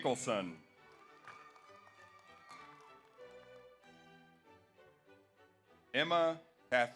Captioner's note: audience applauds; audience cheers